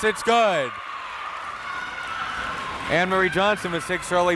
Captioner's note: crowd members cheering